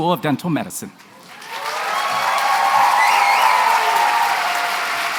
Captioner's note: cheering and applause